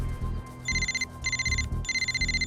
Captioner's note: cell phone rings